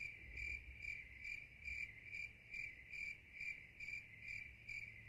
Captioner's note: crickets chirp